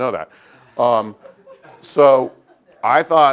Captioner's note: laugh